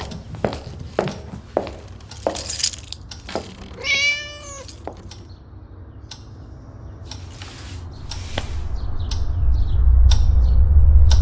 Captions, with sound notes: WE HAVE MOSTLY CLOUDY SKIES [footsteps] [keys jangle] [cat meows] [dramatic clock ticking]